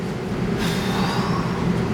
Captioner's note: sighs